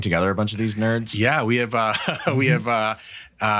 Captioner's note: chuckles